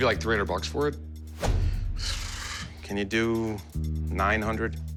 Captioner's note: exhales